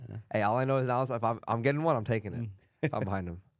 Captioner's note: laughs